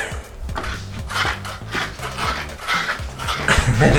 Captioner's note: shoes squeaking; laughs